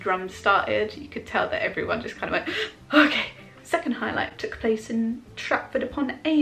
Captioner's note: intake of breath